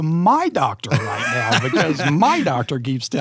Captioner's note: laughing